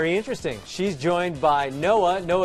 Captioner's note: none